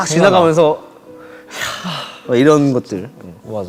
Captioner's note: deep sigh